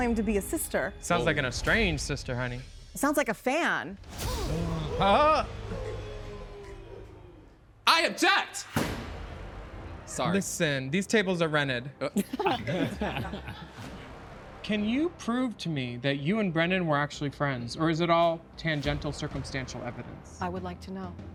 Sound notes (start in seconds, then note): 3.5 all gasping; 3.5 dramatic chord; 8.3 dramatic music; 12.1 all laughing